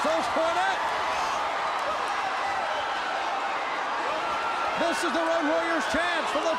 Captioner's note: crowd cheering